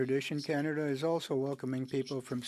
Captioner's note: speaking French